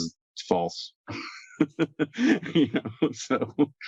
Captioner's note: laughs